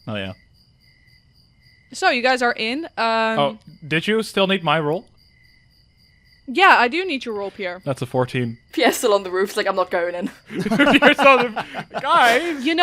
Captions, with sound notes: Oh, yeah. Uhm, so you guys are in. Oh, did you still need my roll? Yeah, I do need your roll, Pierre. That's a 14. (Laughing) Pierre's still on the roof, is like, "I'm not going in". [Laughter] (Laughing) Pierre's just… “Guys!”